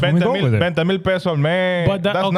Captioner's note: speaking In Foreign Language